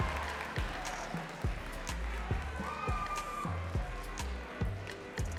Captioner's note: audience cheering and clapping